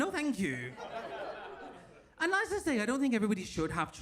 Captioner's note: audience laughs